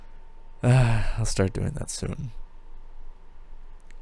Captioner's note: sigh